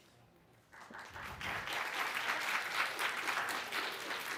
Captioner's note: applause